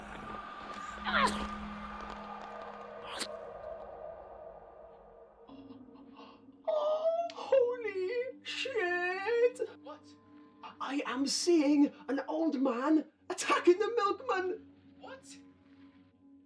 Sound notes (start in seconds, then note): 1.2 grunting; 3.2 squelching